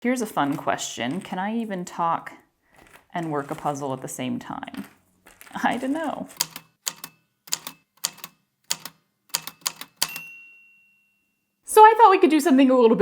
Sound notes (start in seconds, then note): 6.3 A typewriter clicks away, then dings